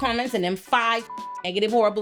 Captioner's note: beep